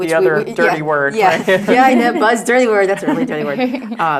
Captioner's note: laugh